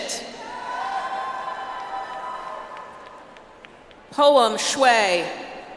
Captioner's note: audience applauds